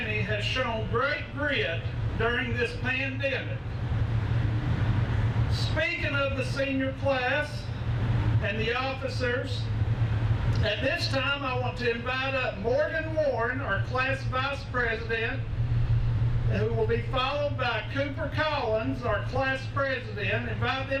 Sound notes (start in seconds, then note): none